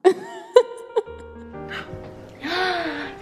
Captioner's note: laughs